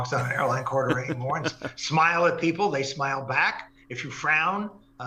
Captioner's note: laugh